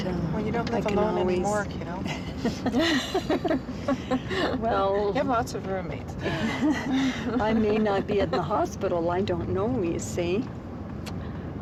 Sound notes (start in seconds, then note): 2.1 both Laughing